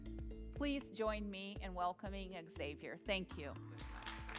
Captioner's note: applause